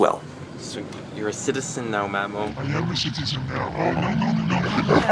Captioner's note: jarbled voice